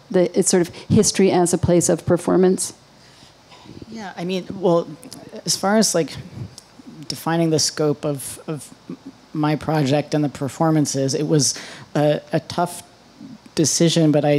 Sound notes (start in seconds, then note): none